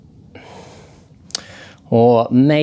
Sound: sighs

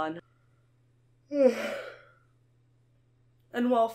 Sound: yawn

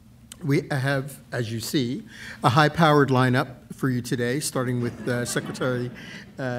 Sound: laughter

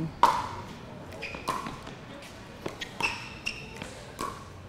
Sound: ball bouncing

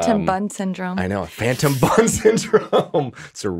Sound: laughing

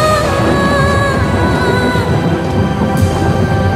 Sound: thunder sounds

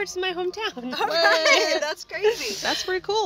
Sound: laughing

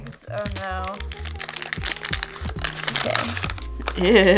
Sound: plastic crackles

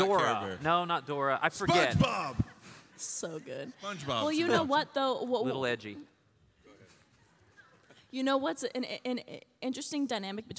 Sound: laughter

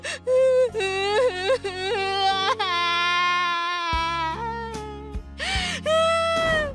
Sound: sobbing

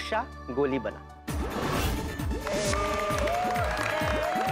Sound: cheering and applauding

